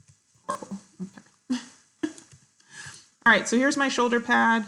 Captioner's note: chuckles